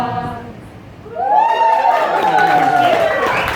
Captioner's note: applause